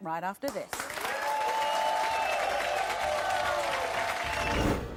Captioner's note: audience applauding